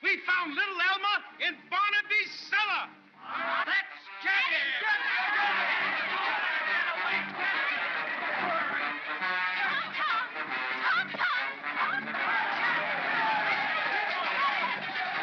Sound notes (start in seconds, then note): 3.1 crowd clamors; 5.3 dramatic music; 12.2 crowd clamors; 12.2 dramatic music